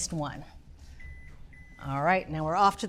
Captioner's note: oven beeping